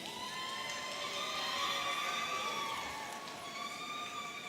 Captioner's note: audience cheering